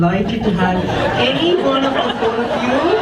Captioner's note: audience laughs